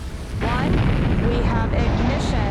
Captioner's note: rockets blast